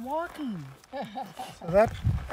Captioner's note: laughter